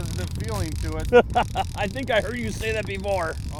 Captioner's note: laughs